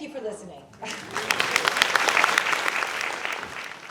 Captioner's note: applause